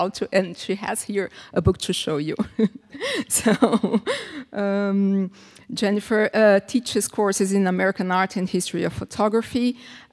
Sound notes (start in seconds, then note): 2.4 laughs